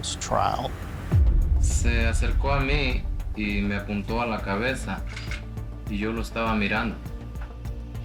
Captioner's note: speaking Spanish